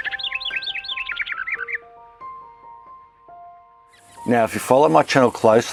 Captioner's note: gentle music; birds chirping